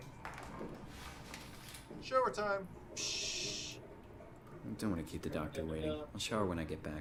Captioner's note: water noises